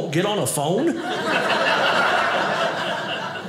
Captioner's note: audience laughing